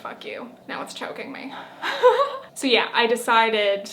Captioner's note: chuckles